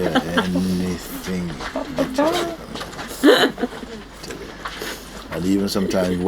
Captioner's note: laughter